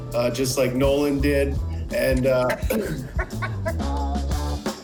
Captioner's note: laughing; funky music